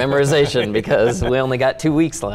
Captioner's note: laughing